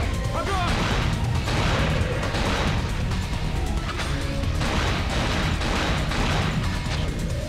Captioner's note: gun booming; tense music; gun booming